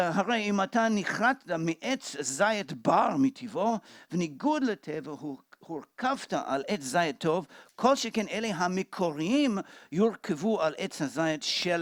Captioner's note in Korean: 히브리어